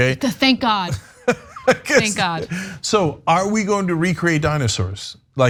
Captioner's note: laugh